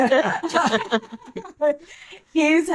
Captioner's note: laughing